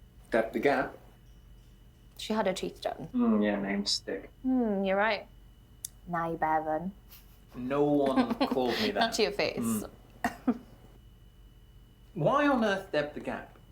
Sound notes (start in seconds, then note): 10.2 Stef giggles